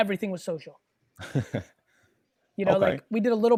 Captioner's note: chuckles